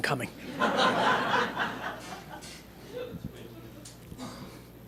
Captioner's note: laughter